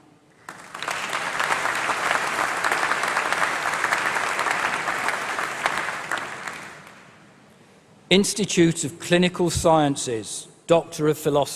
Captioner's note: applause